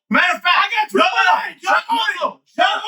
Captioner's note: speaking In Foreign Language